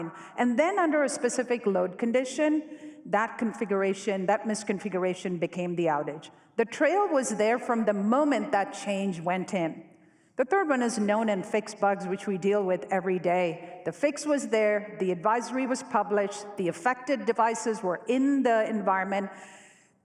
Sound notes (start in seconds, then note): none